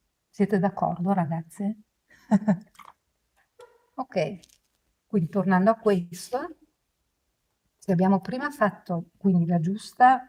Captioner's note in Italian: risate